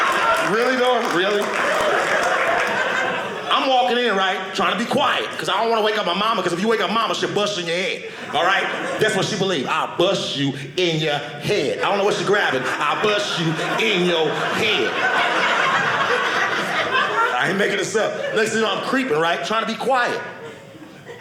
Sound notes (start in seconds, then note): 1.6 audience cheering; 14.9 audience laughing